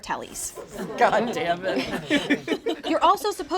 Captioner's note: all laugh